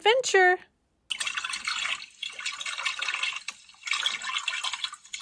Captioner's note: water gurgles